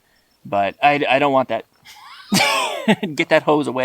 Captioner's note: both laughing